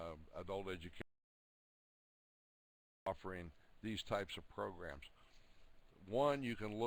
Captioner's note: audio drops